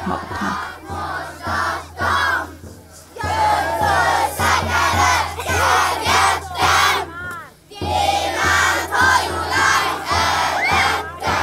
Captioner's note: incantation